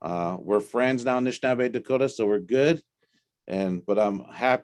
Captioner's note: native language spoken